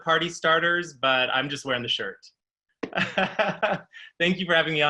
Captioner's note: laughing